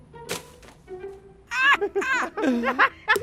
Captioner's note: laughing